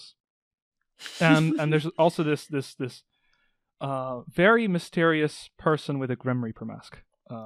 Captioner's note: giggling